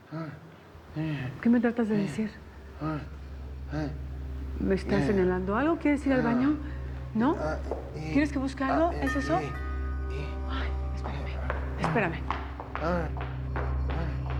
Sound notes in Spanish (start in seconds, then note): 8.8 Timbre de la puerta